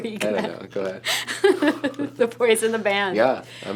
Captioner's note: laughing